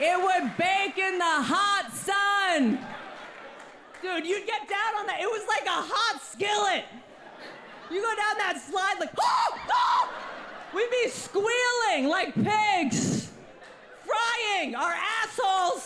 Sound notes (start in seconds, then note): 9.2 mimics pained scream